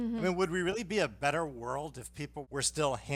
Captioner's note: none